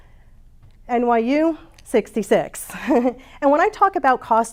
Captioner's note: chuckles